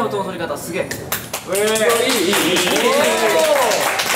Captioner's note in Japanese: 拍手